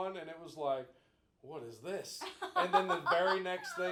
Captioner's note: laughing